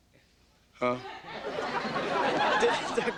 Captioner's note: audience laughing